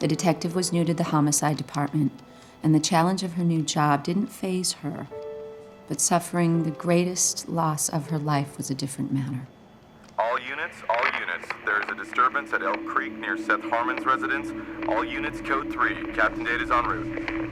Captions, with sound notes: The detective was new to the homicide department and the challenge of her new job didn't phase her, but suffering the greatest loss of her life was a different manner. - [Man On CB Radio] All units, all units. There is a disturbance at Hale Creek near Seth Harmon's residence. All units code three. Captain Dade is on route.